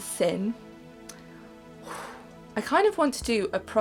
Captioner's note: exhales in anguish